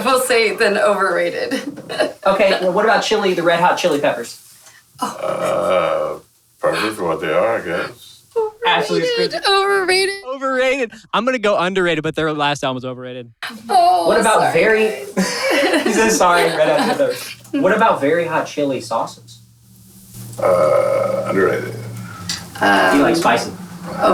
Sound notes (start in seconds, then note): 15.5 laughing